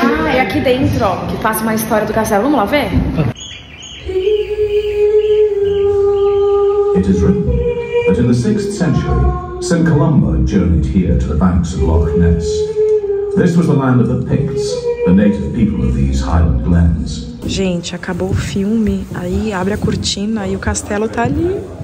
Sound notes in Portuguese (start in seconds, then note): 0.0 vozes ao fundo; 3.3 pássaros cantam; 6.9 narração em inglês